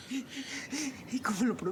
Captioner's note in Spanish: sollozos